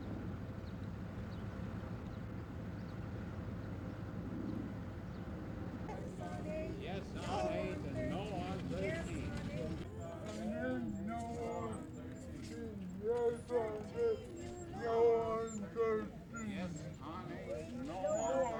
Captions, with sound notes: [Protesters chanting] "Yes on 8, No on 13"..."Yes on 8, No on 13"...